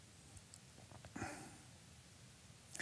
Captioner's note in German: Er schluckt